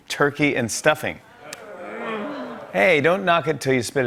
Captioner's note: people groaning